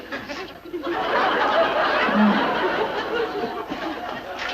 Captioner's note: loud laughter